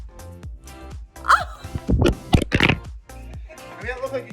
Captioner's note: phone drops